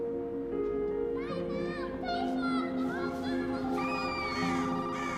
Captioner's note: kids shouting